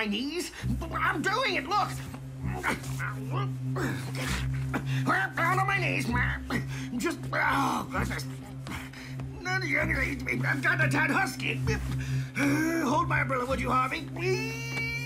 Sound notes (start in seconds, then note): 2.2 grunting; 8.6 grunting